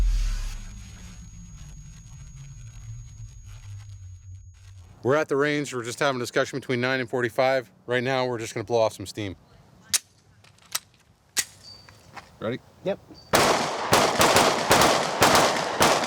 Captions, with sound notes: We're at the range, we're just having a discussion between 9 and .45. Right now, we're just gonna blow off some steam. (guns clicking) Ready? - Yep. (guns banging)